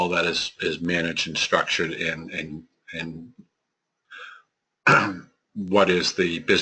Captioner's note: cough